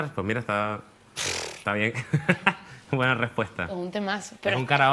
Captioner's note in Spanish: resopla